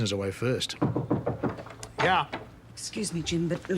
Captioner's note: knock at door